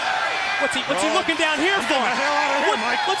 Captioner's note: crowd cheering